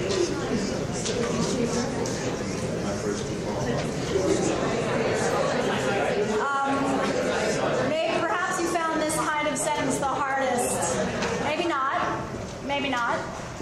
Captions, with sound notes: (audience murmurs) May perhaps you found this kind of sentence the hardest, maybe not, maybe not.